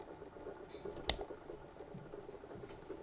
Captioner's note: mouse click